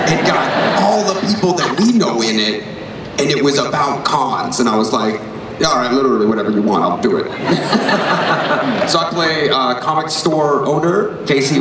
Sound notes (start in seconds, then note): 7.2 laughter